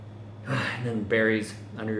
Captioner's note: exhales